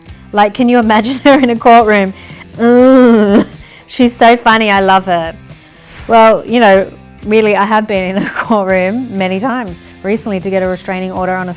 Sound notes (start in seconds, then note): 2.6 groans